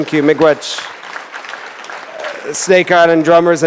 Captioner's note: applause